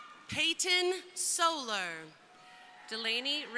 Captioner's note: crowd cheering; crowd cheering